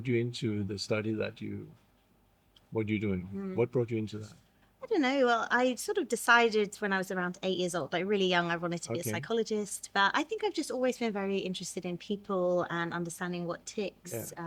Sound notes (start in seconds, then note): none